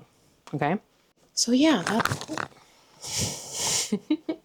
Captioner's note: fumbles mic